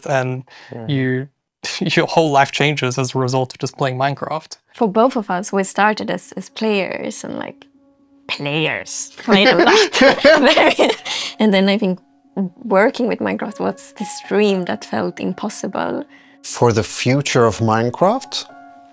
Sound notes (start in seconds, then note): 9.2 laughter